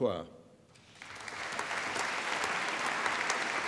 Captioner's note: applause